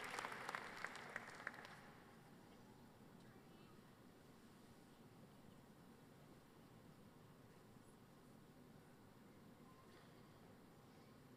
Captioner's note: applause